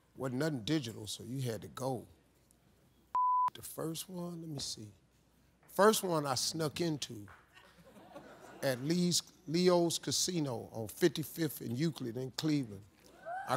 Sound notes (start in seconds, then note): 3.1 beep